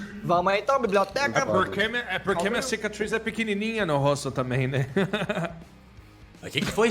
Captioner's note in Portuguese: risada